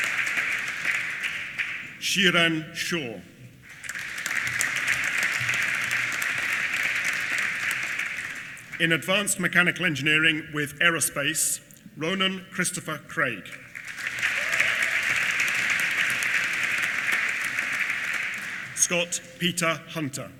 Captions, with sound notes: Xuran Xiao. (APPLAUSE) In Advanced Mechanical Engineering with Aerospace, Ronan Christopher Craig. (APPLAUSE) Scott Peter Hunter.